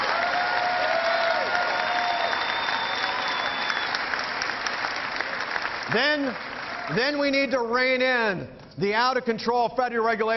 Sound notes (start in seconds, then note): 0.0 cheering